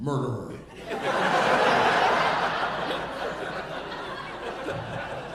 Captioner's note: audience laughing